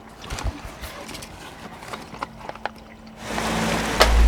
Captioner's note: rummaging sounds; engines hum loudly